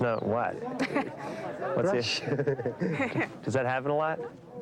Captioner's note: people chuckling